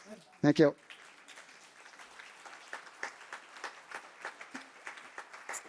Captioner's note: applause